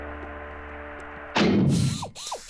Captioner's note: thud; whirring